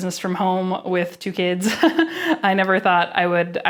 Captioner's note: chuckles